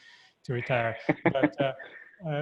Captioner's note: laughing